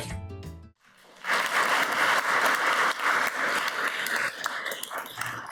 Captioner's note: audience applauds